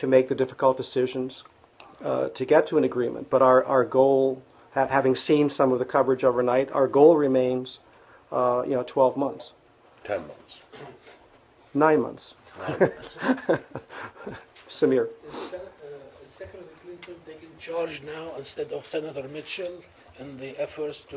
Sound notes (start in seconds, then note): 12.5 laughter